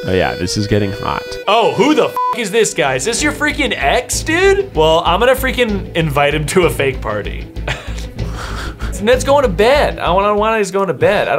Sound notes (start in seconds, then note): 2.0 beep